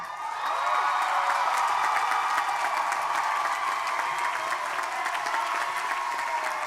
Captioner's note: crowd applauding; crowd cheering